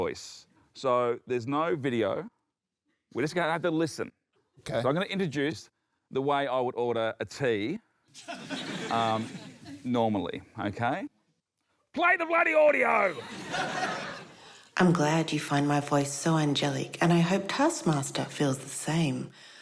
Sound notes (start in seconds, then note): 8.2 laughter; 12.1 yells; 13.1 laughter